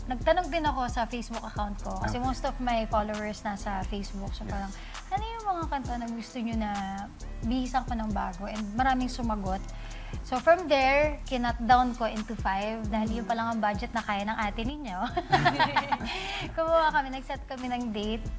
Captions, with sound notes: I posted a poll on my Facebook account. Because most of my followers are on Facebook, so I was like, "What songs would you like reimagined?" From their answers, I picked five, because that's all I could afford right now. [ALL LAUGH] Then, we set a date.